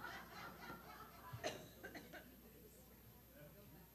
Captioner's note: laughing